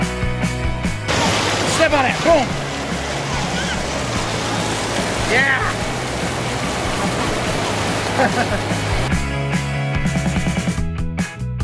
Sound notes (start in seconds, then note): 4.1 water splashing; 8.0 laughing